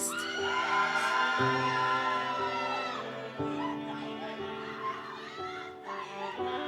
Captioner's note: audience cheers; gentle music continues